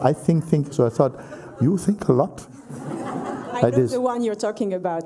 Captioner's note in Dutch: gelach